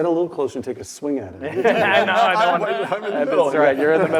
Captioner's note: laugh